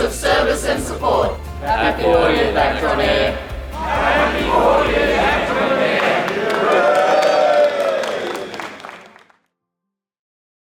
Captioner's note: cheers and Applause